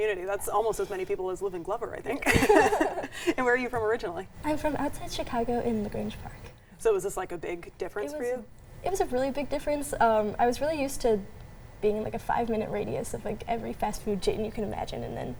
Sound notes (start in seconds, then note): 2.2 both laughing